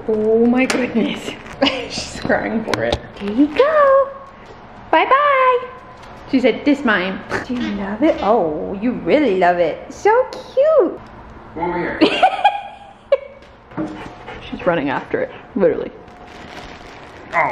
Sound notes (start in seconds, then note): 12.0 laughs